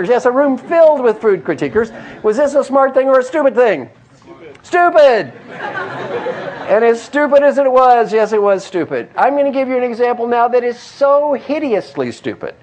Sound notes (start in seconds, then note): 5.4 laugh